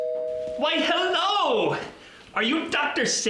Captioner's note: doorbell rings